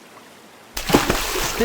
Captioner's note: splash